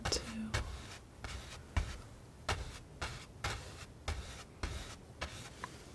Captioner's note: scratching